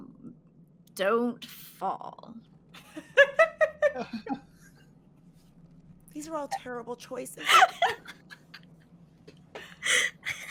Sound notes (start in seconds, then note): 2.8 laughs